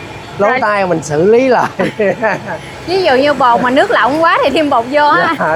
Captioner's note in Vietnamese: tiếng cười